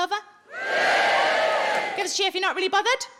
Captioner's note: audience cheering